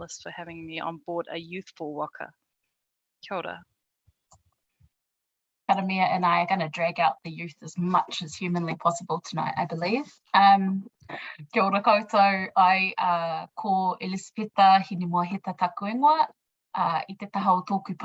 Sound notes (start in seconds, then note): 11.8 speaking in foreign language